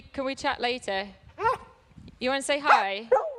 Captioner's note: barking